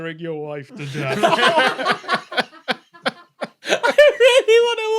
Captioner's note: chortles; laughter intensifies